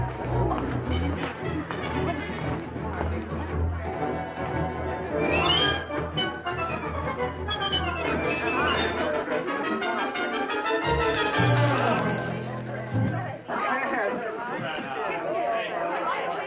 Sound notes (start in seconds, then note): 0.0 upbeat orchestral music; 10.8 bell ringing; 13.4 party chattering